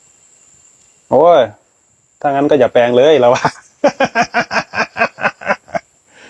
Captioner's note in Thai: เสียงหัวเราะ